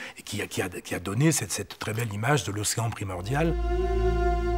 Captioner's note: French spoken audio